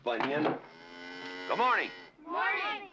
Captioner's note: cow moos